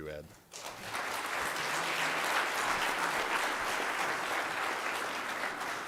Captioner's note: applause